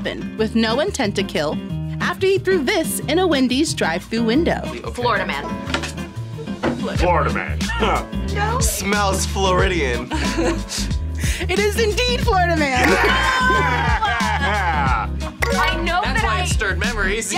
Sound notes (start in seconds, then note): 5.0 guitar strums; 7.8 laughs; 10.1 laughs